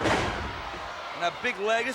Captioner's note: body thuds